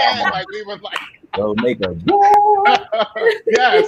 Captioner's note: laughing